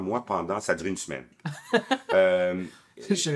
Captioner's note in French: rires